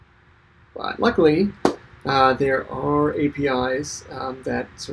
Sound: claps hands

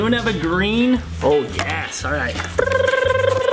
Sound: hums

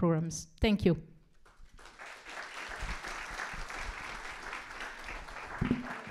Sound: applause

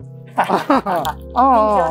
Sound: laughing

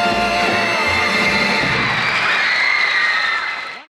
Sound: audience screams

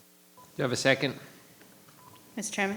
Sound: microphone beeping

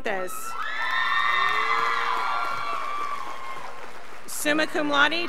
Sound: scholars applauding

